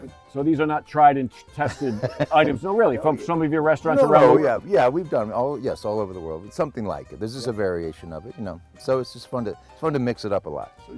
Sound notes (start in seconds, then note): 1.6 Todd laughs